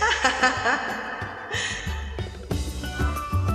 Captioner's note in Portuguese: risos